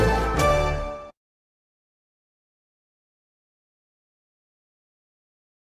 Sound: upbeat orchestral music; silence

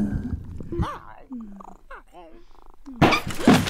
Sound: low meowing; thud; gasp

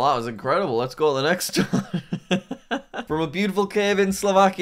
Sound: laughs

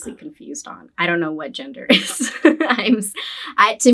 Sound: laughs

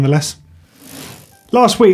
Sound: bike chain whirring

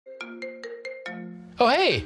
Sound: cell phone ringing

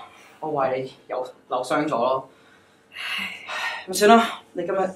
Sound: sighs

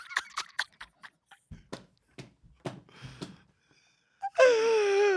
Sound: laughs

